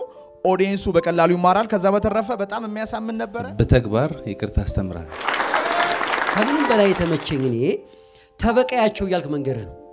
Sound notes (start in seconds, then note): 5.1 applause